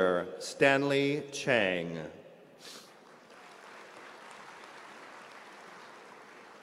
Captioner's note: applause